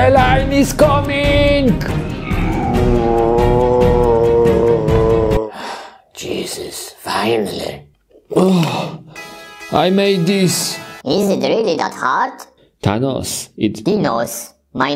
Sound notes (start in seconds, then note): 1.8 Chirik groaning; 5.9 sighing